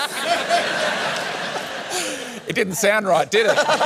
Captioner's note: laughter; laughter